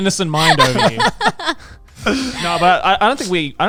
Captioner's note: laughing